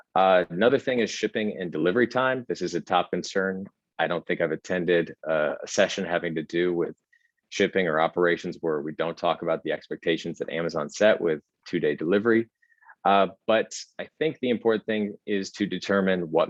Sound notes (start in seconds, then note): none